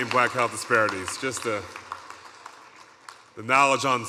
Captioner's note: audience cheering